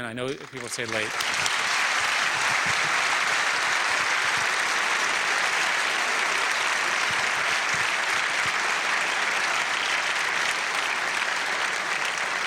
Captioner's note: applause